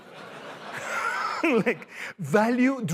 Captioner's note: laughter